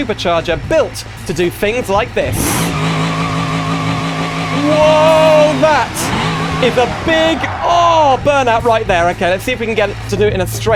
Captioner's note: car burnout sound